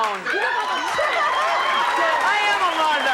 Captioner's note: audience laughs